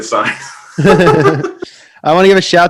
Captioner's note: hosts laughing